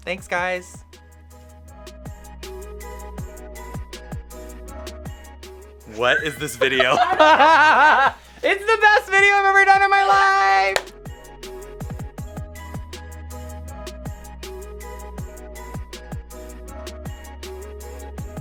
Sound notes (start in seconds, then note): 0.3 background music gets louder; 5.9 laughing